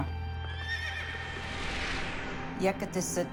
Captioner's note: horse neighs